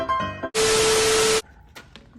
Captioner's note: playful music; static